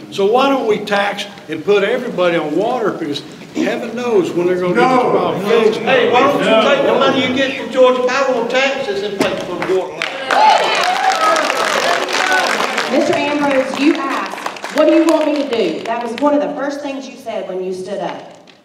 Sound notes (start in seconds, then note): 6.3 crowd cheering; 6.3 crowd clapping; 18.4 crowd chattering